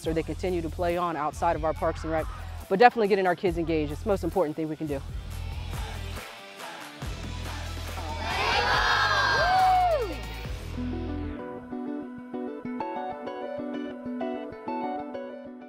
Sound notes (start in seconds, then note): 8.1 woman cheering; 11.0 upbeat music